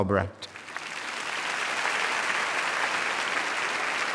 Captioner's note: audience applauding